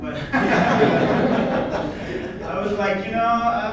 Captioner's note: laughter